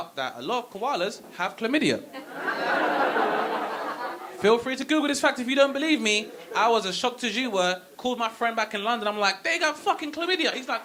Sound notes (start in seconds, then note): 1.1 audience laughing